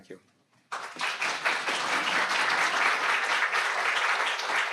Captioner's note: audience applauding